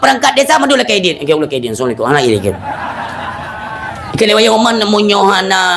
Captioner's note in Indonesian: tertawa